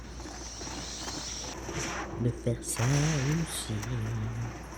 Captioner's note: cold-blooded noises; horse galloping and bats screaming